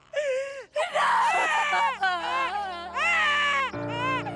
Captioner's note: Lucia cries